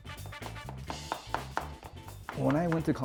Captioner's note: upbeat music; chopping